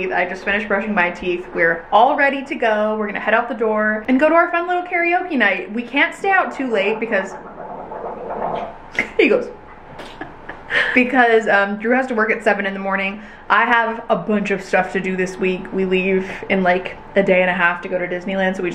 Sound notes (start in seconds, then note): 7.1 gargles loudly; 10.0 laughing